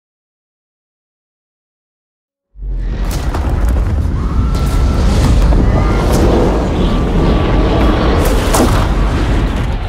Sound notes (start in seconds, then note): 2.8 gunfire, screaming; 5.0 propeller whirring; 8.1 gunshot